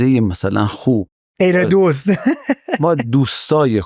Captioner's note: laughs